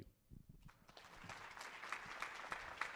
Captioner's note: applause